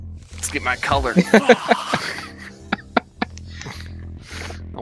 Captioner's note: laughs